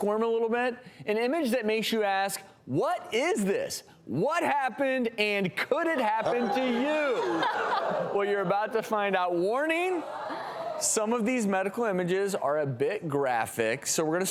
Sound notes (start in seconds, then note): 6.2 audience groans